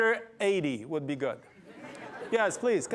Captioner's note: laughter